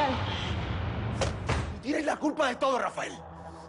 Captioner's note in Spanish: Portazo